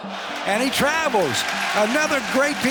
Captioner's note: crowd cheering